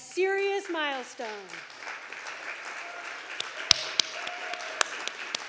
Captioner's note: audience applauding